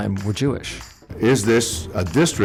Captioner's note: soundbite of archived recording